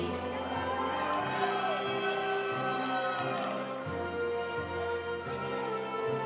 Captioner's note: audience applauding; audience cheering